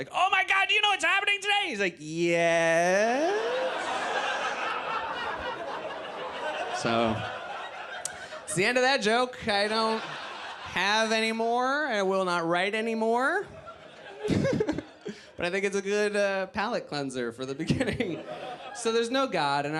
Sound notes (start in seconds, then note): 4.7 audience laughs; 13.5 laughs